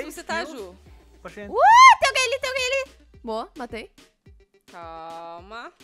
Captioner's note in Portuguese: Grita